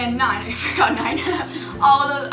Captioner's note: laughs